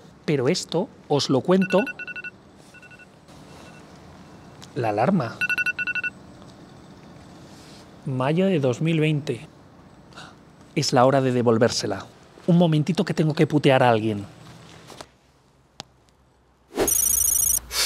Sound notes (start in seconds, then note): 3.1 cell Alarm